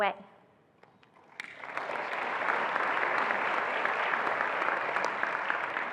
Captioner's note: attendees applauding